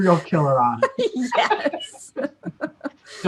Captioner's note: laughter